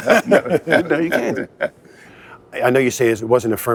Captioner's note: laughter